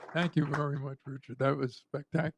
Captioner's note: applause